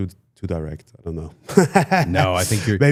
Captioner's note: laughs